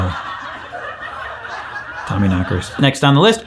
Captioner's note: laugh track laughing